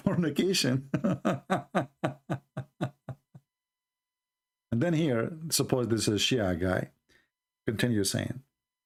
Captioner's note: Ketawa